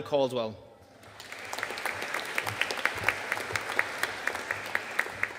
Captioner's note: audience applauding